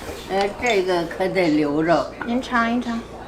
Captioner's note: speaking Chinese; grandma speaking Chinese; speaking Chinese